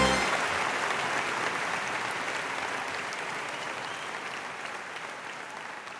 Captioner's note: audience applauding